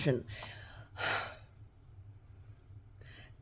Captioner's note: sighs